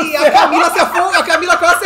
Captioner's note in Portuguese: gargalhada